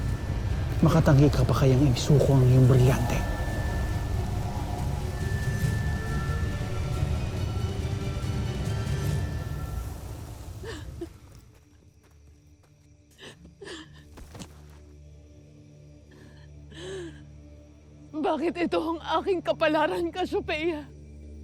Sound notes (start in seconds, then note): 3.7 tense music playing; 8.8 music fades; 10.2 pensive music playing; 10.2 sobbing